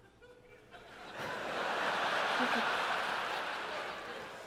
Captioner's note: laughter